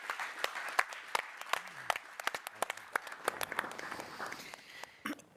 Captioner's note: applause